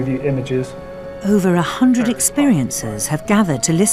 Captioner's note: voiceover